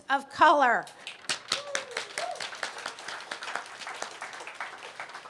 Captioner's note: applause